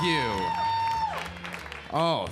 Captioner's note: audience cheering